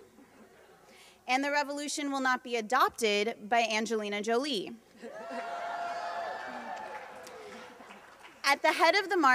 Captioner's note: laughter